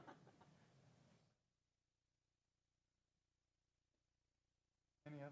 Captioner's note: laugh